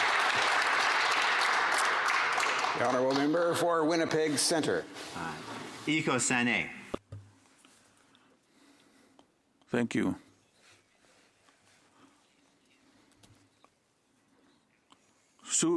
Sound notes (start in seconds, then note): 4.1 some Applause